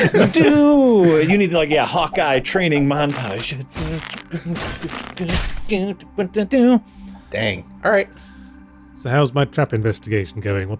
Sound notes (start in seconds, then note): 4.6 humming montage music